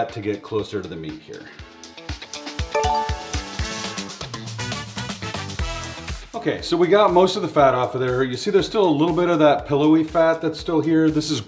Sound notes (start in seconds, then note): 2.7 upbeat music; 2.7 electronic bell ringing